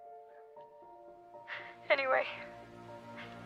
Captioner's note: none